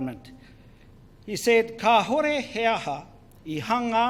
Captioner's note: foreign Language